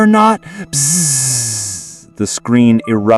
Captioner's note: buzzing